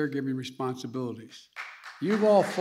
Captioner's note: applause